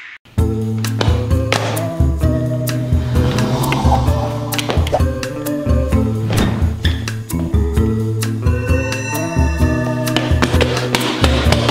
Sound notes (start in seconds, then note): 0.0 mysterious music playing; 3.0 footsteps; 8.8 ominous sounds